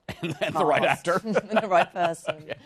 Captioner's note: laughs